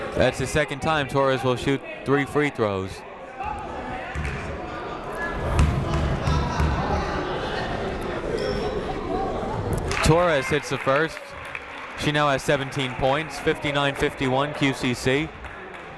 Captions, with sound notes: That's the second time Torres will shoot three free throws. (people talking in the crowd) Torres hits the first. She now has 17 points. 59-51 QCC.